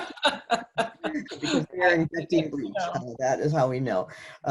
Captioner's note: laughter